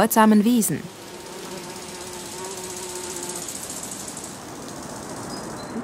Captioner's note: hum